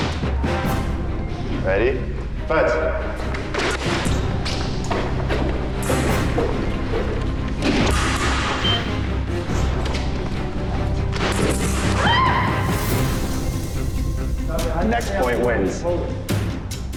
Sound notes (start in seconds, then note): 8.3 dramatic music; 11.9 screams